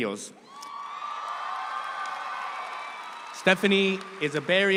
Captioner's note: audience cheers